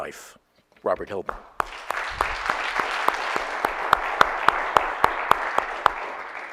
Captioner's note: audience applauding